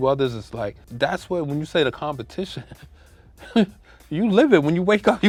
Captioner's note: laughs